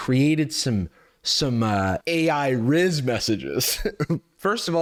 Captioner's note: chuckles